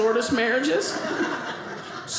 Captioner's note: audience laughing